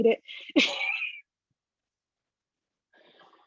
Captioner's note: chuckles